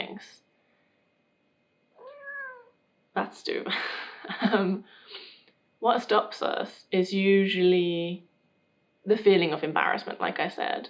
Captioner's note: Tove meows